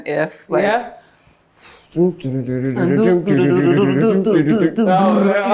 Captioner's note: humming